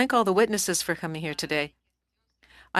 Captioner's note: speaking French